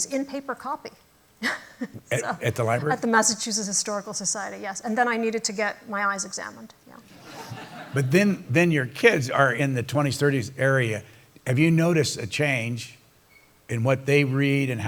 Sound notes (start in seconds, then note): 1.4 chuckles; 7.1 laughter